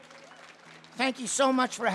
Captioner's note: audience cheering; audience clapping